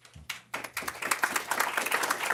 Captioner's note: applause